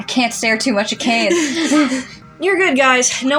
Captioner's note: both Chuckle